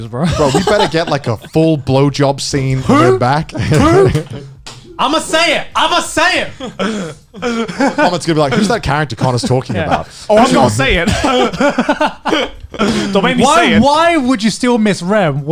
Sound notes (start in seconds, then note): 6.9 laughs; 10.3 laughs